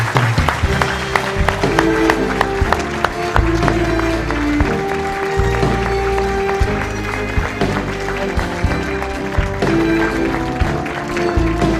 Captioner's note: applause